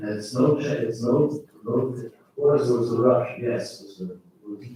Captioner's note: faintly speaking